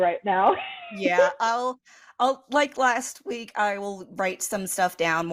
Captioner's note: wheeze